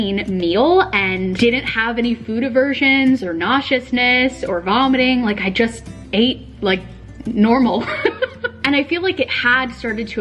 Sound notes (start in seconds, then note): 7.8 laughing